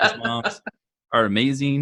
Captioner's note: laughing